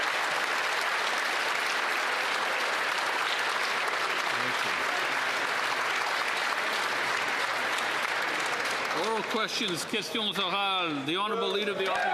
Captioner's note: applause